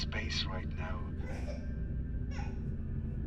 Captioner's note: baby cry